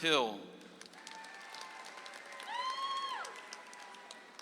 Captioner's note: audience applauds